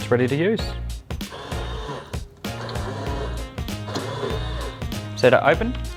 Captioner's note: potti buzzing